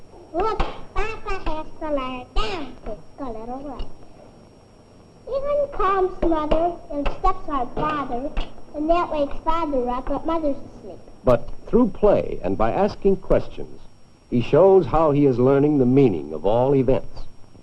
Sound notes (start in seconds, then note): 0.3 jabbering; 5.2 childish jabbering continues